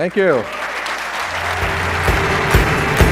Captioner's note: applause